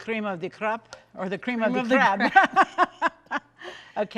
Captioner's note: laughs